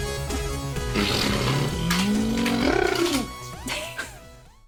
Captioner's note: imitating car whooshing; chuckles